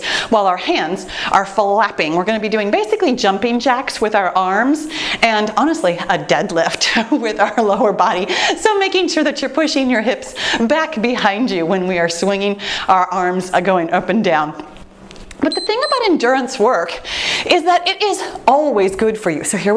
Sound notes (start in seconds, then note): 15.4 timer beeps